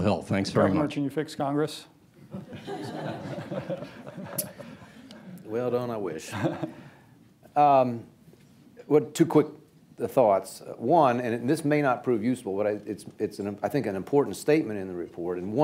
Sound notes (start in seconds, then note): 5.3 laughter